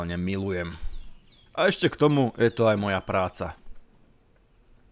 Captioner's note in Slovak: none